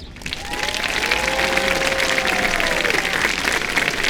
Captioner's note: applause